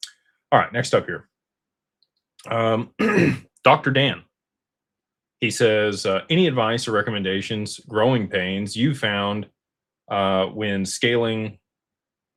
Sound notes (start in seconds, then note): 2.9 clears throat